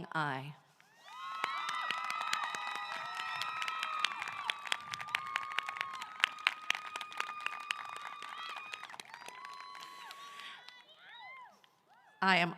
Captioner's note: applause